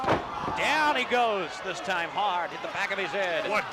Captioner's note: crowd chatter